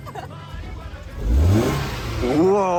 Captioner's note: vroom